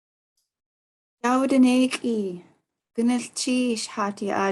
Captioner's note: speaking Tlingit